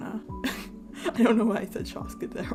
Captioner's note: laugh